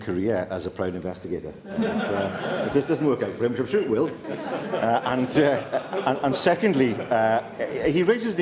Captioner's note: laughter